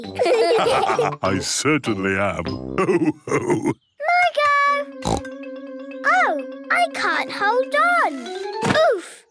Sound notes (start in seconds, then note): 0.1 all laugh; 5.0 snorts